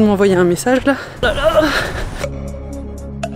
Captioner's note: groaning